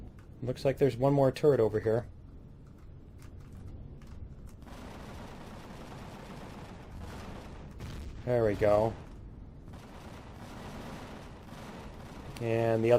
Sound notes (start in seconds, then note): 6.9 explosion